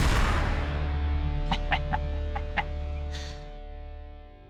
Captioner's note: chuckles